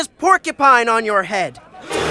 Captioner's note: gasps